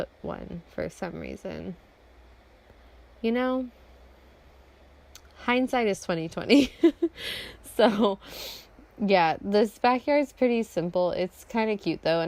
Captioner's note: laughs